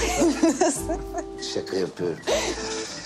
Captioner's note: Mine laughs